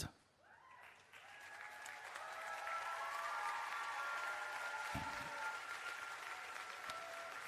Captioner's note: applause and Cheering